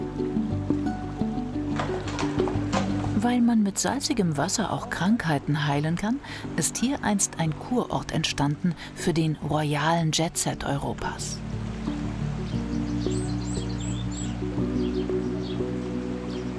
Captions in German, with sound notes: Weil man mit salzigem Wasser auch Krankheiten heilen kann, ist hier einst ein Kurort entstanden für den royalen Jetset Europas. (Vogelzwitschern)